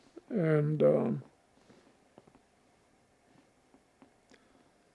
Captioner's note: pauses 13 seconds